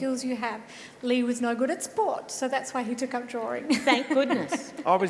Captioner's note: laughs